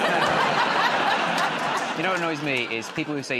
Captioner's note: laughter